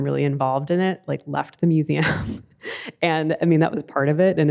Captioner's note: laughs